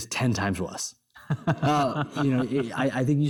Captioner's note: chuckles